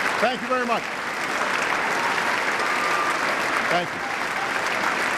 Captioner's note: applause